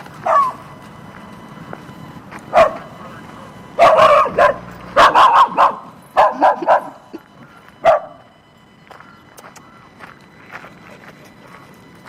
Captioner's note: dog barks; lecturer laughs